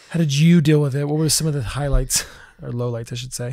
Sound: laughs

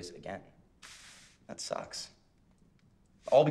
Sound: sucks air through teeth

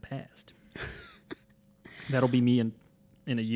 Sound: laughs

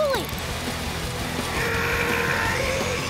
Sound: grunting

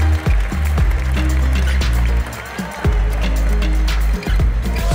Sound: applause; ♫ Midtempo guitar music ♫

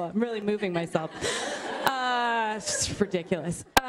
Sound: laughter

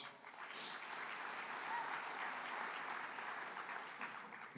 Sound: applause

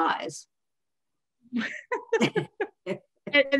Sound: laughter

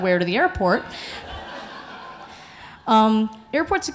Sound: audience laughing

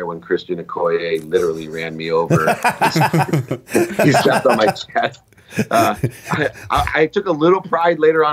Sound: laughter

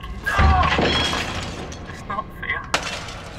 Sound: angry teenager noises

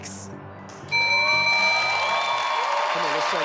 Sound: bell rings; audience applause

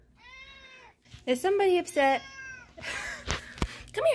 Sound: meow

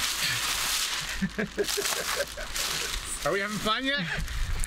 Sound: chuckling

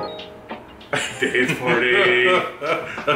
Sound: laughing

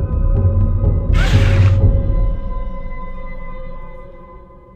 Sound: monster growls

